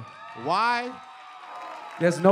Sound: cheering

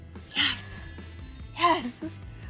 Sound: bell dings

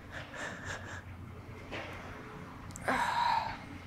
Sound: sobbing; sighing

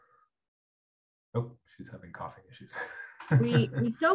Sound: chuckles

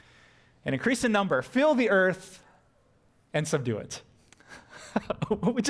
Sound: pastor: Laughter

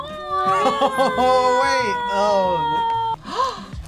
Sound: laughs; gasps

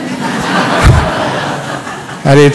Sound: laughter

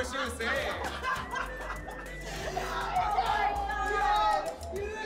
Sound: laughs

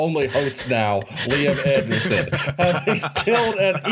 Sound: laughter

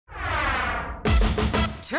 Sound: whoosh; funky music

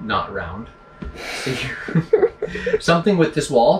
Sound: both laugh

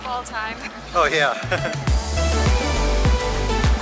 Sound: chuckles

